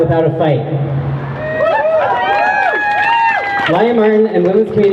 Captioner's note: crowd cheering